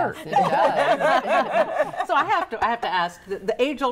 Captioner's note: group laughing